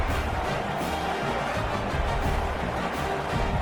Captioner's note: crowd Noises